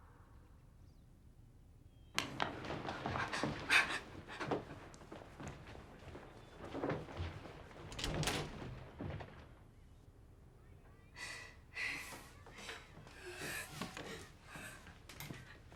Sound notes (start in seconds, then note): 2.9 gasps; 11.2 sobs